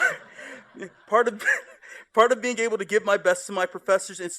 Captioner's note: laughter